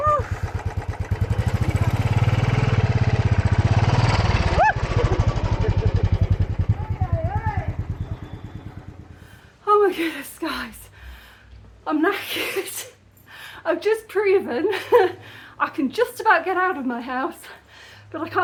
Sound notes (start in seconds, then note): 4.4 guy laughing; 4.6 screach of alarm